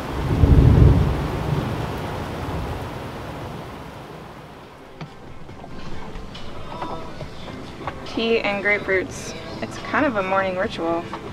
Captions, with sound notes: (rain pouring) (soft music) Tea and grapefruits. It's kind of a morning ritual.